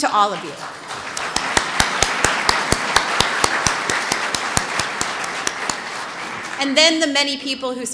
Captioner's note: applause